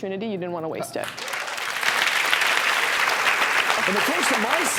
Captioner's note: audience clapping